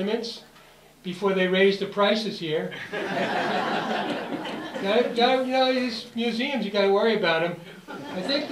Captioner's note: audience Laughter